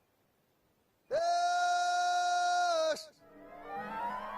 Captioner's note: reindeer call